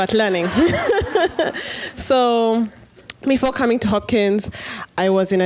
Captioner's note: laughter